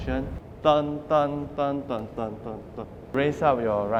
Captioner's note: mimic drum sound